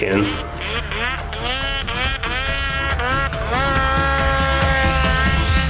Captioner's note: snow mobile engine revving